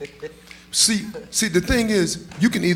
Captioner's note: audience members snapping fingers